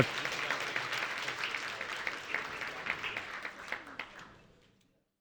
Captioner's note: audience applauding